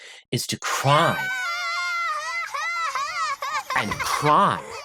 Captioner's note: bawling